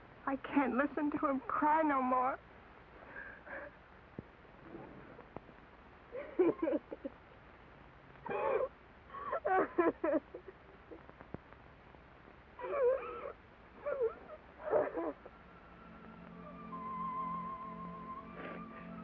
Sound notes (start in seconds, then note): 6.0 Nona weeps; 14.6 sad music